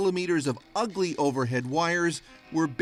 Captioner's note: speaking russian